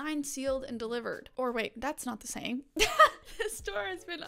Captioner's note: laughs